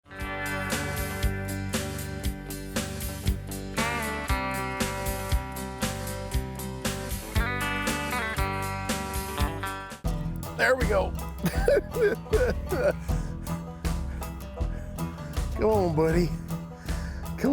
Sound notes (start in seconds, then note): 11.4 chuckling